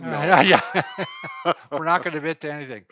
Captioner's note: laughing